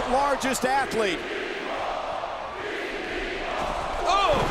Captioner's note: crowd chanting